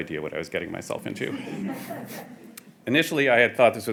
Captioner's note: audience chuckling